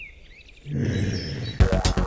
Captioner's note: woman groaning; lively electronic music